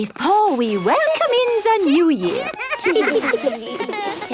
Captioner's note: laughter